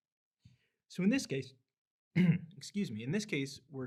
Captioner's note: clears throat